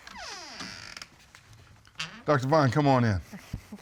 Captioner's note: door opens